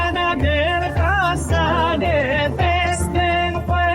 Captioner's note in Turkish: Ayakları yere vuruyor